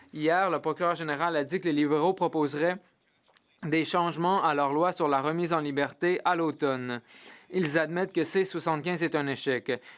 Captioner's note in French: voix de l'interprète